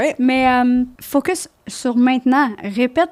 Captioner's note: in french